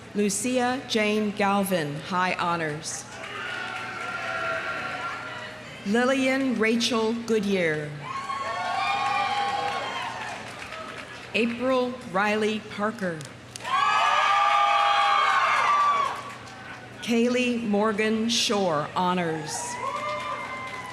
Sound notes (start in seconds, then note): 3.1 audience applauding; 3.1 audience cheering; 8.0 audience cheering; 8.2 audience applauding; 13.6 audience cheering; 13.6 audience applauding